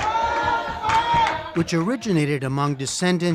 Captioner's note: man chants, claps